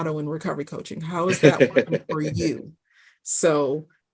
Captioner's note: laughing